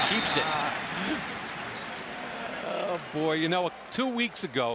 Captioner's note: laughs